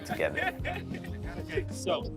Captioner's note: laughter